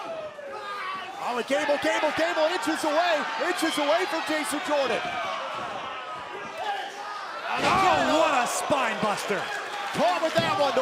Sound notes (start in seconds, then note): 0.0 crowd cheering; 5.6 crowd chatter